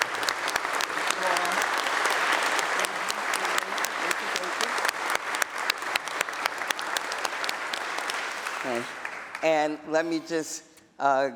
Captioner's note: applause